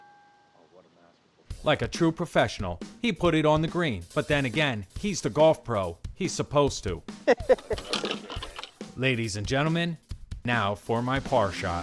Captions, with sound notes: Like a true professional, he put it on the green, but then again, he's the golf pro, he's supposed to. (laughing) Ladies and gentlemen, now for my par shot.